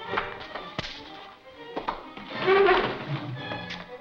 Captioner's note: fist connecting